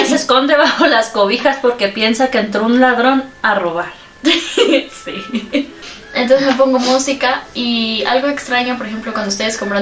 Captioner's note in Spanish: risas